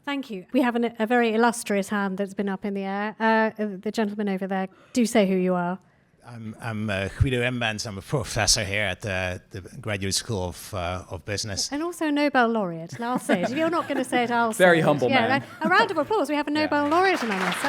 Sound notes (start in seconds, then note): 12.9 laughing